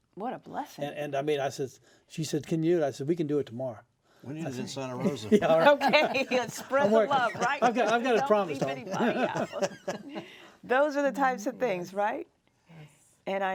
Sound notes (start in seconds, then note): 5.0 laughs